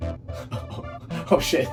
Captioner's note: laughter